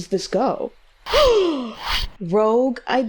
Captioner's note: gasps